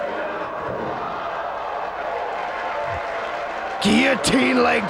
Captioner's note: spectators cheering and applauding